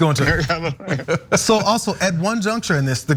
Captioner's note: laugh